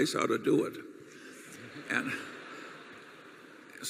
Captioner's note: laughter